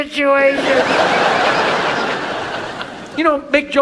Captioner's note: audience laughs